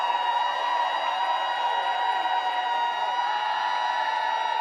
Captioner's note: applause